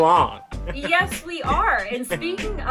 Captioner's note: chuckles